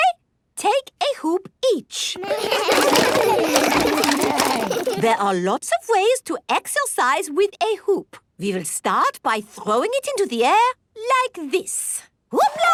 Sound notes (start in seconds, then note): 2.2 all laugh